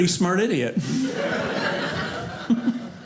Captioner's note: audience laughing